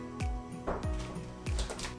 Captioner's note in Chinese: 敲门声